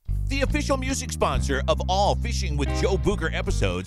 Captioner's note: voiceover